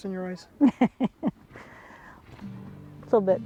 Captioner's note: laughter